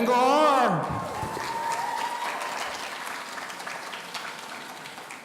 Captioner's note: audience applauding